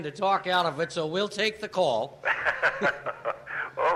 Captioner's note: laughing